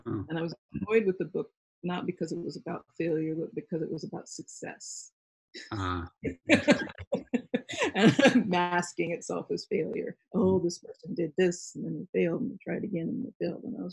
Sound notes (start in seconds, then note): 6.2 laughing